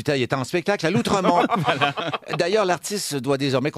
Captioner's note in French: rires